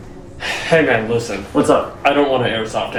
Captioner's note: sighs